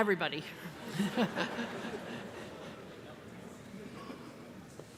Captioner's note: audience laughs